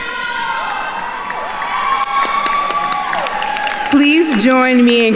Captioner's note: attendees cheering and applauding